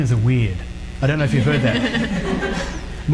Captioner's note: audience laughs